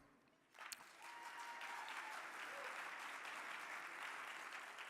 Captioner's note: audience applauding